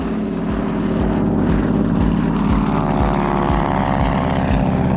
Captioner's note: airplane engine roaring